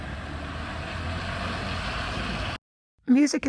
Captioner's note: distant car engines rumble